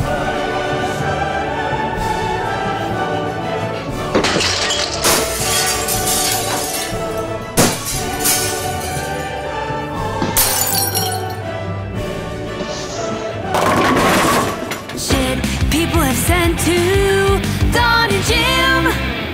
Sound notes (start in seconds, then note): 3.8 crashing; 4.1 glass shattering; 13.5 bowling pins clattering